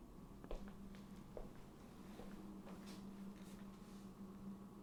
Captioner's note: footsteps thudding